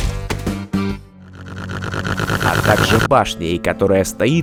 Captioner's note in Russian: нарастающее хрюканье